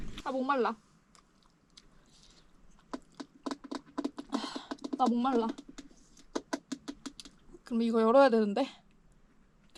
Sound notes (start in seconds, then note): 2.8 making noises in case there's an animal